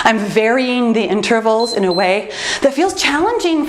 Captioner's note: timer beeps